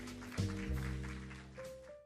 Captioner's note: applause